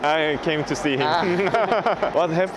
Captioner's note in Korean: 웃음